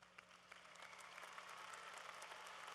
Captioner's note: applause